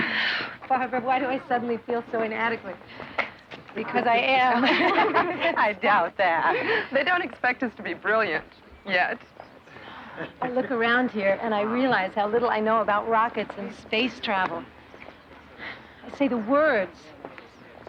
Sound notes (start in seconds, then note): 4.4 laughing